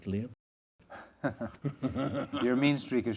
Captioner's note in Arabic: يضحك; يضحك ماركوس